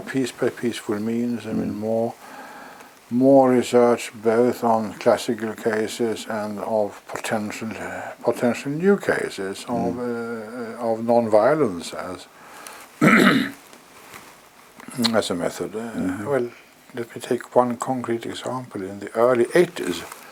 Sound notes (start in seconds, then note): 13.0 cough